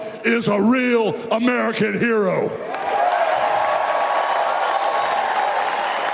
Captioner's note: applause